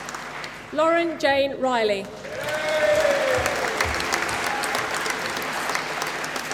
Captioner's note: applause